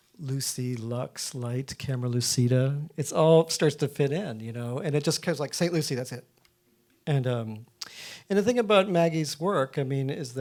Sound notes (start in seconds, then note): none